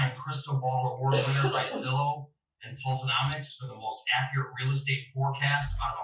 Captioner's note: coughing